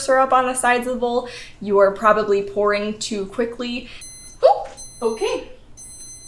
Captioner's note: beeping